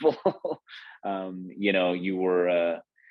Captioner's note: laughs